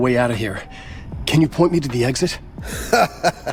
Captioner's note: in English